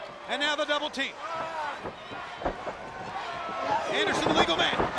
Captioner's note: crowd clamoring